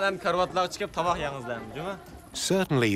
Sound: speaking Uyghur

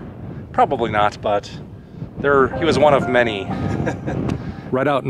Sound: laughter

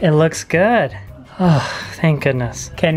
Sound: sighs

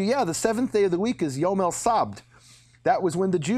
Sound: speaking in a foreign language

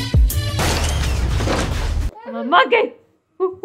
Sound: crashing

